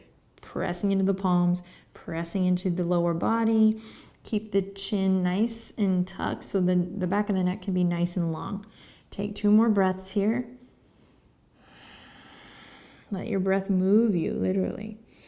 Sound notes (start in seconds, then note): 11.5 breathing